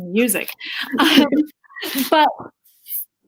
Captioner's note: laughs